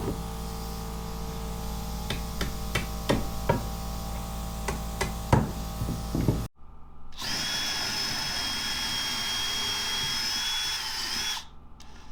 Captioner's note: wood thudding; saw whirring